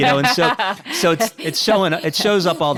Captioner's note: laughs